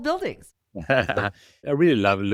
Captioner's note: laughing